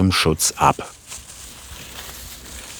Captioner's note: rustling